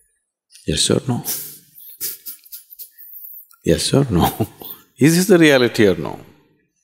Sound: laughs

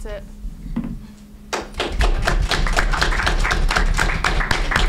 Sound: crowd applauds

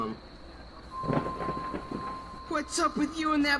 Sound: distorted Thunder Sounds

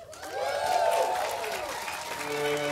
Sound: audience applauding; orchestral music

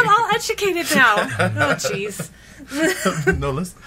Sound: laughs; laughing

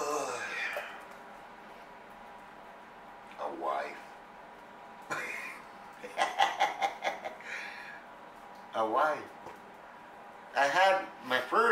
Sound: laughs

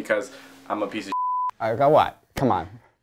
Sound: beep

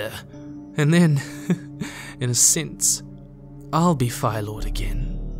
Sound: chuckles

